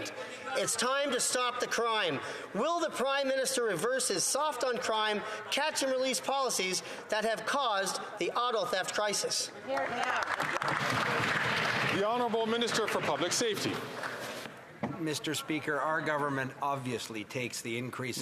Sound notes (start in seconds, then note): 13.4 some Applause